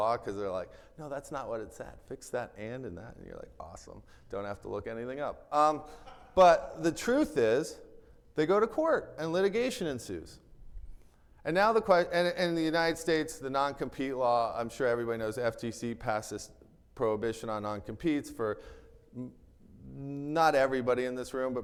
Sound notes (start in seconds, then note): 6.0 attendee laughing